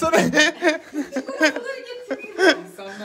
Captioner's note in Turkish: Gülüşmeler